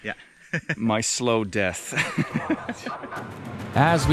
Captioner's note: laughs